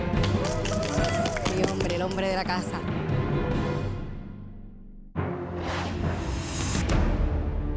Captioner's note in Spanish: aplausos